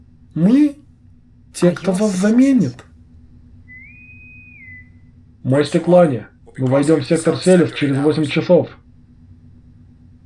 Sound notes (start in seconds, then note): 3.6 intercom whistles